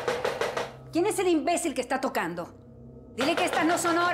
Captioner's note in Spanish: Toques fuertes en la puerta